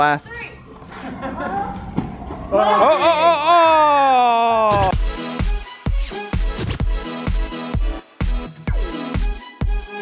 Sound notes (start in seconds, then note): 2.4 yelling